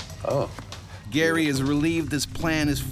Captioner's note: voiceover